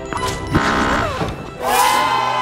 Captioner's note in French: bip d'interdiction